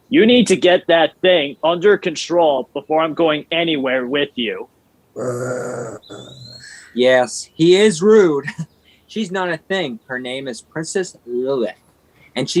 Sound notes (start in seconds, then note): 5.1 Lilith growling